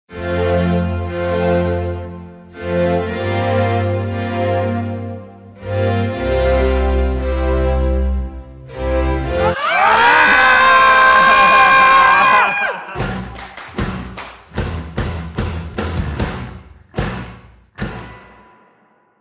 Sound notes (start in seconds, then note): 0.0 classical music; 9.3 yelling; 12.8 upbeat music